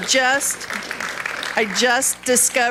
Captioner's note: audience clapping